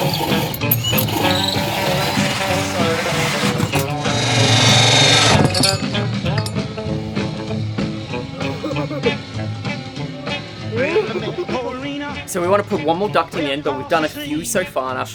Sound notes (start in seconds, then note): 0.2 metal grinding; 5.2 metal thudding; 7.5 upbeat blues music